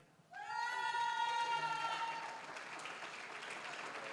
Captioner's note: applause, cheering; applause